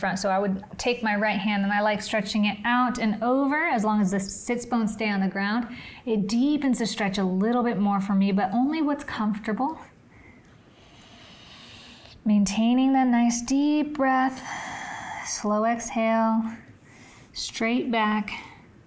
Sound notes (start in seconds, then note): 10.6 inhales; 14.4 exhales